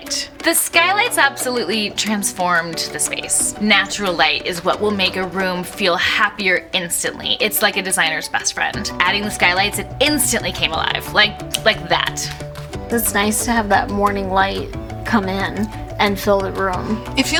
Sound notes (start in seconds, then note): 11.4 snaps fingers